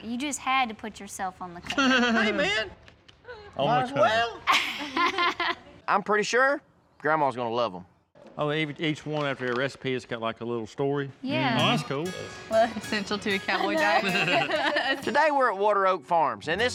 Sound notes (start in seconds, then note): 4.4 laughs; 13.6 laughs